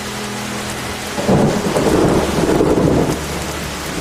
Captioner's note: thunder rumbling